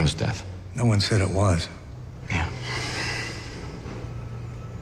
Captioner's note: sighs